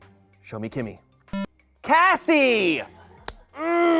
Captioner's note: electronic beep; groans